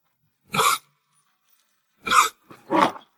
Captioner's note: cough, cough, cough